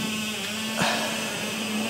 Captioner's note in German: Stöhnen